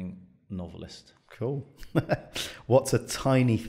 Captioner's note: chuckles